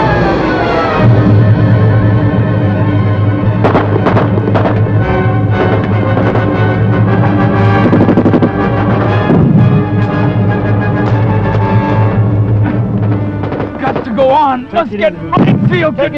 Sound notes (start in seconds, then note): 0.3 dramatic orchestral music; 9.0 gunfire